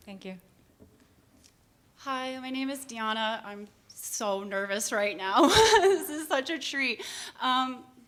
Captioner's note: nervous laughter